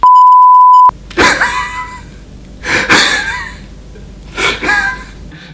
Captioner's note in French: rires